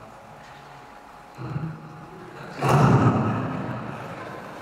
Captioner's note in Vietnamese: cười